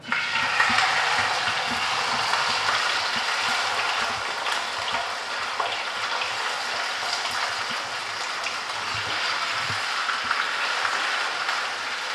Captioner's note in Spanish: Crepitación